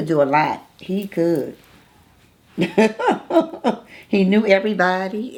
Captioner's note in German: lacht